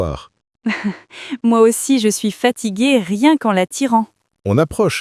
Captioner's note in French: rire